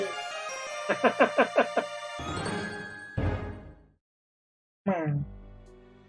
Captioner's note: friendship fanfare; chuckles